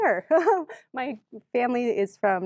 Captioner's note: laughs